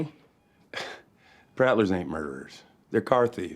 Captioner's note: scoffs